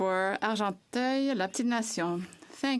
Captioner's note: speaking French